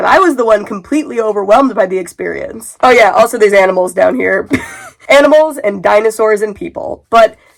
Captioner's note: laughs